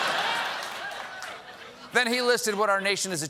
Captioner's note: laughter